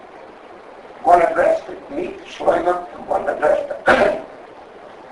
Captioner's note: clears throat